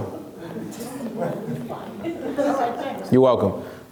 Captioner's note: laughs